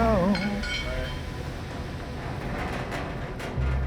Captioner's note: tool clatters